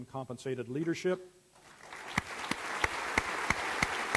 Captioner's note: applause